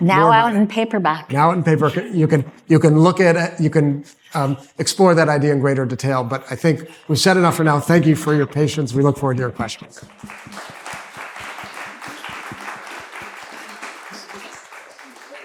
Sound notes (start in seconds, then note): 9.9 applause